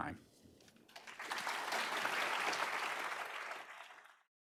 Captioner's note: applause